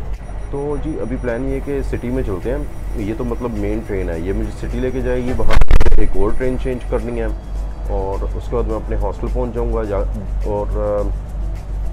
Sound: audio explodes here

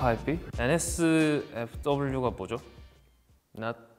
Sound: speaks Korean

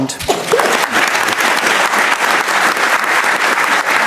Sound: audience applauding

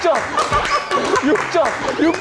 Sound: clapping like seals

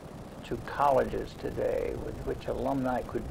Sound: none

